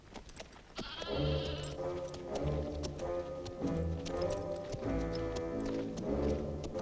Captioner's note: goats bleating